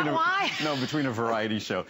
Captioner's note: laughter